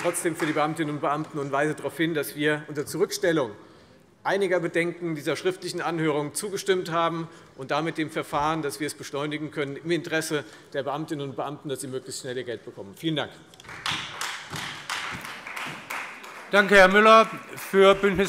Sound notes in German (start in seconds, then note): 13.6 Beifall Freie Demokraten